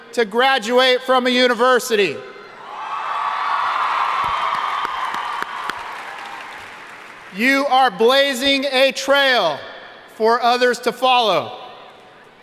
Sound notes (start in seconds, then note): 2.6 audience cheering and applauding